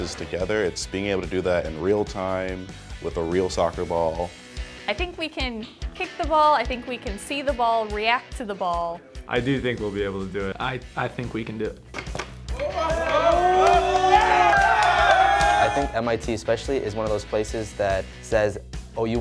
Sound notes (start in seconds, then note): 12.5 cheering